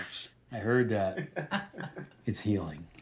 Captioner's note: Kent laughing